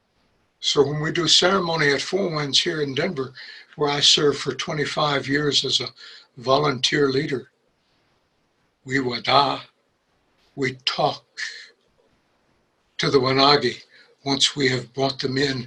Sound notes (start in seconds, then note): 9.0 speaks in a foreign language